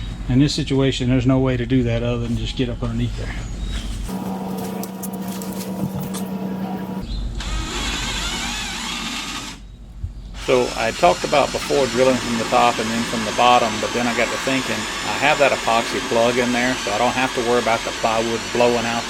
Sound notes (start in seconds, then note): 7.4 what's that sound? DRILLING